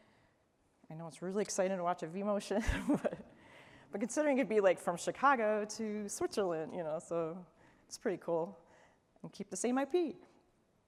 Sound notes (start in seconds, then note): 2.6 laughter